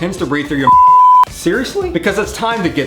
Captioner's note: beeping sound